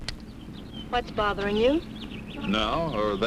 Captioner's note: birds chirping